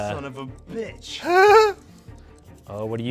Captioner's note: laughs